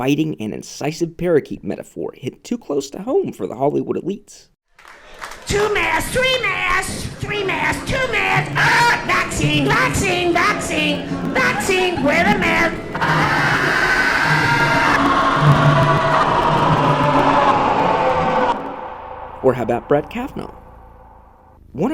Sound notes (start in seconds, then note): 4.9 ominous whooshing; 12.0 demonic screaming